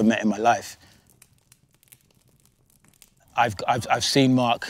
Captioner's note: fire crackling